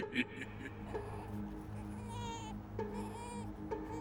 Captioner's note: baby crying